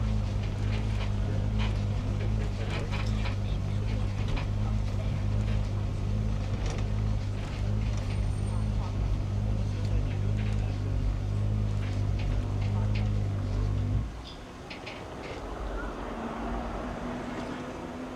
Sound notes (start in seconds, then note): 4.8 engine whirs; 4.8 tram creaks; 8.6 people talk randomly; 14.4 cart whooshes